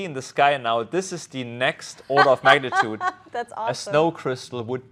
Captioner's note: laughs